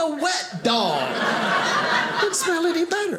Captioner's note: audience laughing